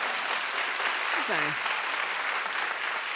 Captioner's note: applauding